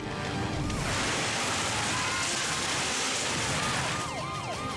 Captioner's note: building collapses; siren blaring